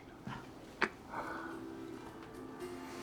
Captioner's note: Florio exhales